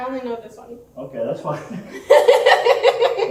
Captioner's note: laughs